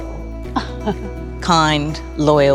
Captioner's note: laughing